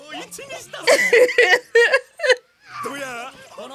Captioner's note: laughing